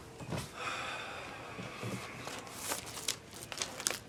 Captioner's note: Ron sighs